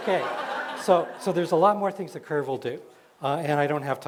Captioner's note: laughter